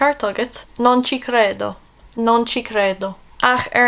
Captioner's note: Italian